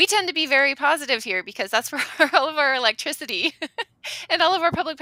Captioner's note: laughing